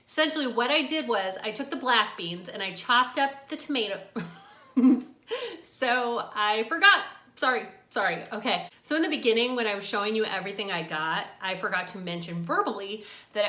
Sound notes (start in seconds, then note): 4.2 laughing